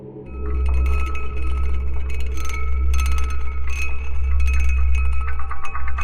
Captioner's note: pensive music continues; chimes rattling